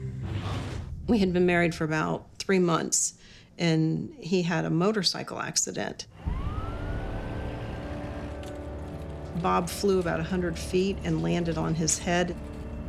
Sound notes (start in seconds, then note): 6.1 siren wails